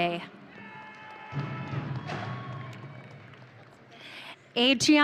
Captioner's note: audience cheering